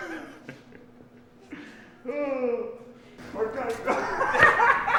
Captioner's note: laughing